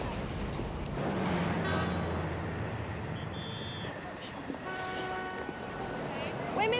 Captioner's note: horns honking, whistling blaring